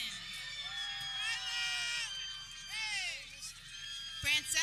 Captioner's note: people cheering